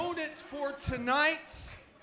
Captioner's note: crowd chatter